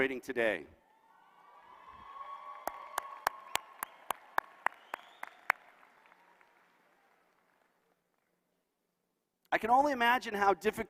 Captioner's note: applause